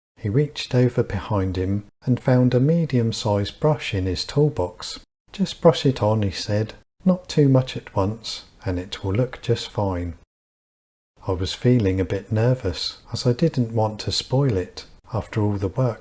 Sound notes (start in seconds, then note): none